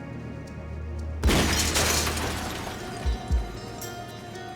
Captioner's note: gun shot